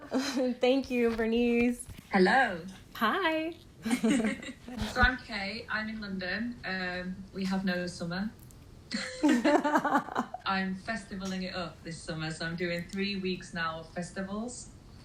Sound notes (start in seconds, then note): 3.8 laughing; 8.9 laughter